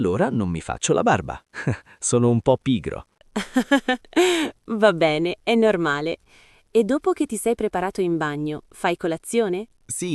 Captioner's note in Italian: risate